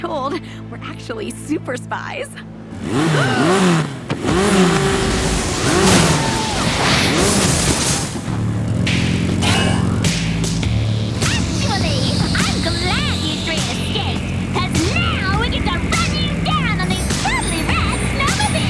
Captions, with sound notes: Well, truth be told, we're actually super spies. [engine revving] [yelling] Actually, I'm glad you three escaped, because now we get to run you down in these totally